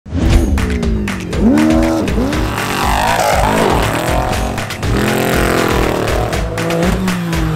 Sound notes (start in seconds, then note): 0.6 engine revving; 1.8 upbeat music; 4.6 engine revving